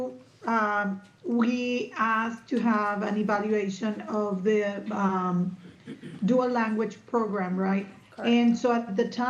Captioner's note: clears throat